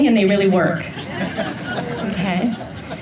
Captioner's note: laughter